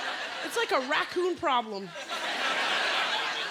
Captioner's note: laughter